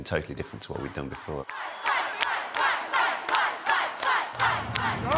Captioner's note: chanting